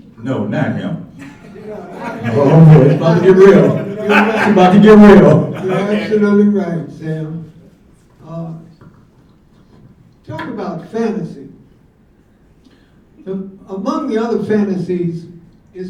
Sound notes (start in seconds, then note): 1.2 mumbles and laughter